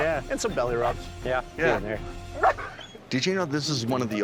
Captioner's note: dog barks